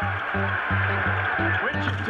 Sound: crowd cheering

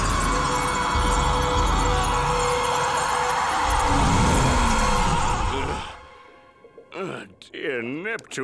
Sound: screaming

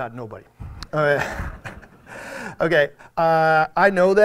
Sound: audience laughs

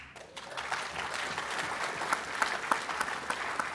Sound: applause

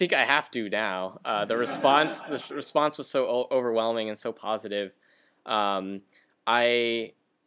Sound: laughter

